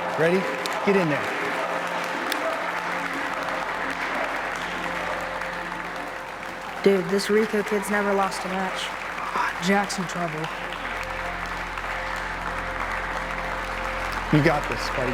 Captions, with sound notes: Ready? Get in there. (audience chanting "Rico" and applauding) - Dude, this Rico kid's never lost a match. - Ah, Jack's in trouble. (audience applauding) - You got this, buddy.